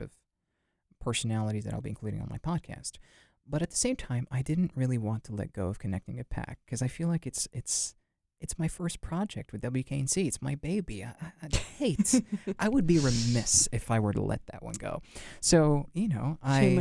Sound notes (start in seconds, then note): 11.5 laughs